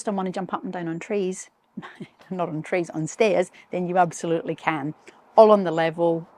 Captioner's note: chuckles